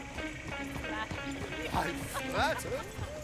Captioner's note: laughs